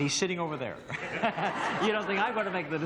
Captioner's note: laughter